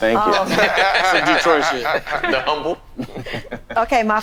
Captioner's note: all laughing